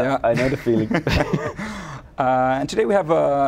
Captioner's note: laughing